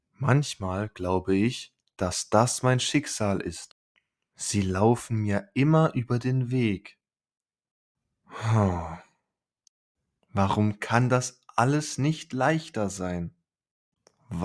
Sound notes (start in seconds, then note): 8.3 sigh